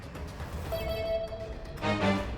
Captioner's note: "ding ding" noise replacing survivor vomit sound